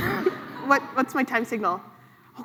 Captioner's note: laughs